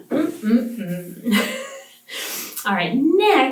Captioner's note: laughs